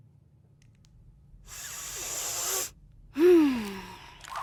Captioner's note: inhales deeply; sighs